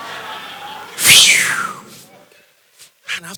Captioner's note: phew